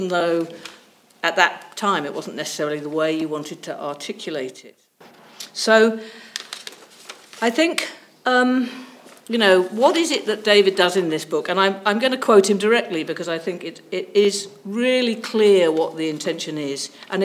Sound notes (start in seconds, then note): 6.2 pages rustling